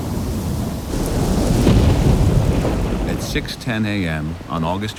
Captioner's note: thunder, heavy wind and rain